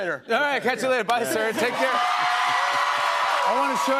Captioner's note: cheers and applause